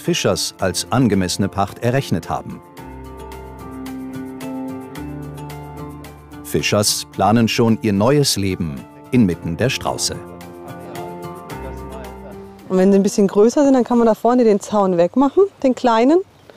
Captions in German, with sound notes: was Fischers als angemessene Pacht errechnet haben. (Spannungsvolle Musik) Fischers planen schon ihr neues Leben inmitten der Strauße. (Leise Gesprächsfetzen) Wenn sie größer sind, kann man da vorne den Zaun wegmachen.